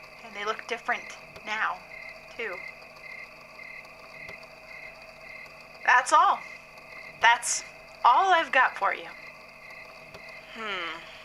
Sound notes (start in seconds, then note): 10.0 click; 10.6 running footsteps on soft dirt. Someone trips, landing with an 'oof'